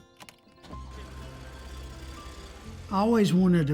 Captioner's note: engine starts